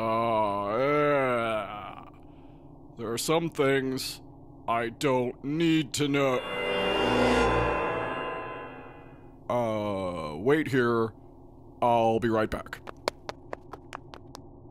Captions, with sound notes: Ahhehhhahhh! There are some things I don't need to know. (sound of force calling) Uh, wait here. I'll be right back. (fast footsteps running off)